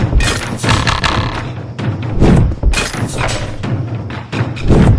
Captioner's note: weapons loading and firing